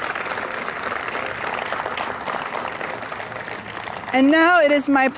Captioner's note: applause